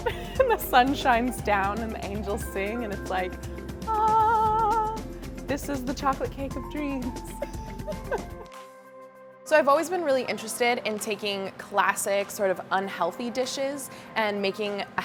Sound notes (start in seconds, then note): 0.0 laughs; 3.9 vocalizes; 7.4 laughs